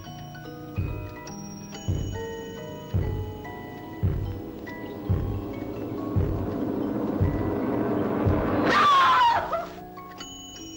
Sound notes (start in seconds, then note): 0.0 footsteps from above; 0.0 soft music plays; 2.9 footsteps grow louder; 5.2 tense music; 8.8 cries out